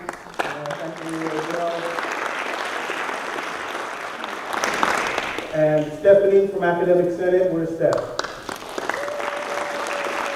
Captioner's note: applause